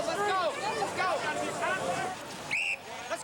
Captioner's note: police whistle